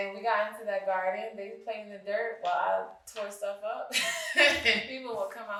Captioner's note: guffaws